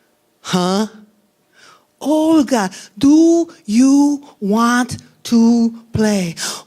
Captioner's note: slowly speaking